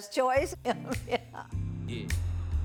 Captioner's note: laughs